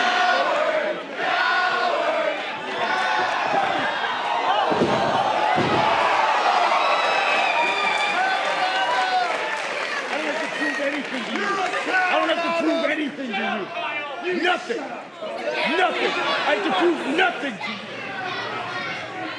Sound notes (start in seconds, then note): 0.0 fans chanting; 7.5 cheers and applause